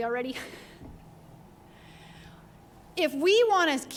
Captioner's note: chuckles